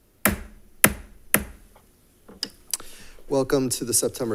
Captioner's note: gavel pounding